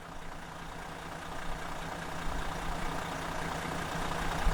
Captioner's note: truck engine running